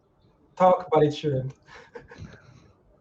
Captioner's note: laughs